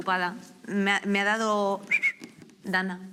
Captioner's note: whistles